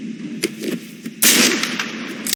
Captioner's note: gunshot